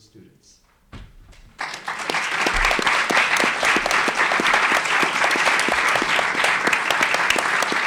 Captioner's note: applause